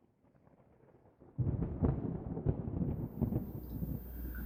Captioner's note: distant thunder